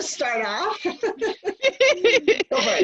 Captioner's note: laughter